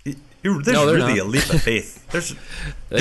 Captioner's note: laughing